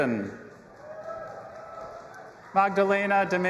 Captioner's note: audience applauding and cheering